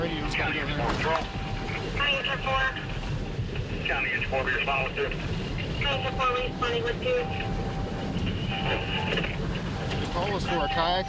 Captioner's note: police radio traffic